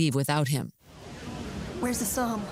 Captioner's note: background chatter